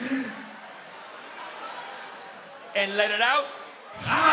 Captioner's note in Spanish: Inhala; Inhales